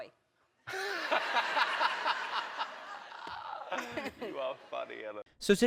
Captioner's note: laughs